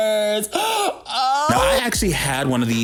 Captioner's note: gasps